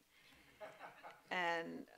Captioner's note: laughing